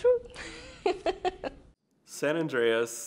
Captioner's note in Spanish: riendo